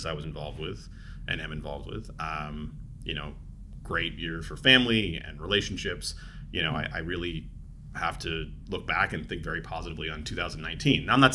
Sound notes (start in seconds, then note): none